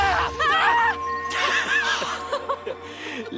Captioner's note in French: rires